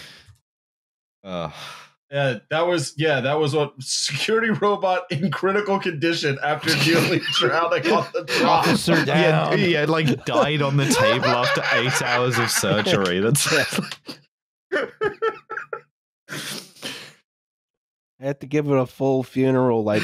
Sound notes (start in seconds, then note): 6.1 laughing; 8.0 laughter; 12.9 cackles; 14.9 laughter